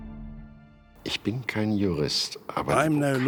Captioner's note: speaking German